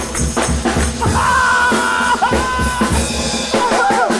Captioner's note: laughs